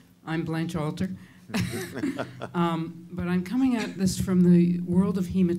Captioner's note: chuckles